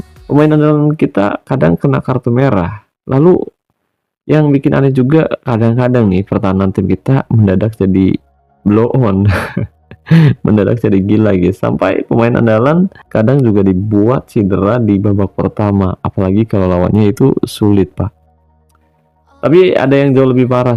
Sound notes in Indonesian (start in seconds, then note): 9.3 tertawa